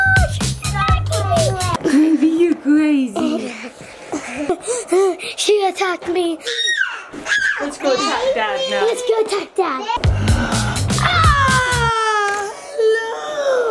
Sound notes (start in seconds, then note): 3.2 child laughing; 6.4 child screaming; 8.5 child babbling; 10.0 person sighs